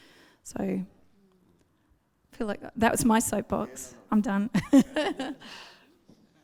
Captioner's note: laughs